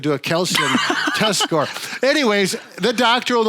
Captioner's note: laughs